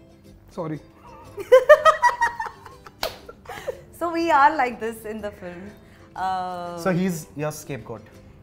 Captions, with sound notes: Sorry. [Laughter] [Claps] So, we are like this in the film. So, he's your scapegoat?